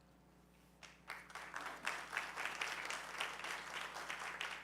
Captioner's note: audience clapping